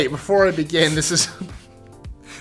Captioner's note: snickering